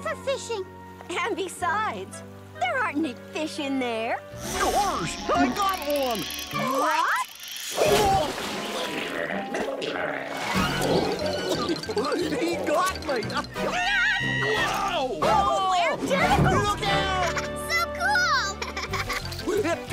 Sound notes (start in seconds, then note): 13.7 screaming; 15.8 yelling